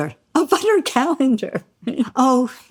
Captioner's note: laughs